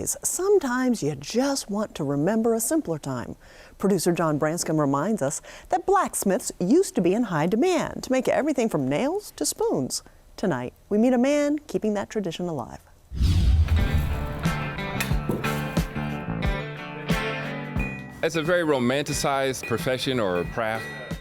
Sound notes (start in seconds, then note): 13.1 air whooshes; 13.7 lively rock music